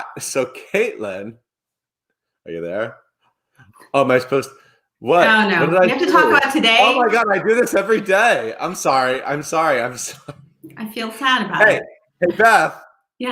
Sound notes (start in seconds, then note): 10.1 chuckles